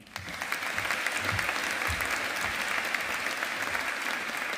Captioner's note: audience applauding